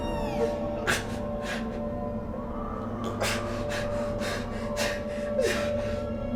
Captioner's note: softly sobbing; intensifying music